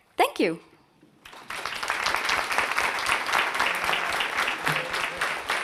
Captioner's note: audience applauds